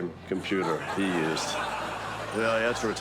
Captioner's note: studio audience laughs